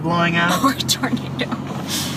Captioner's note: laughs